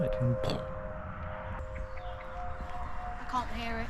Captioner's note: poof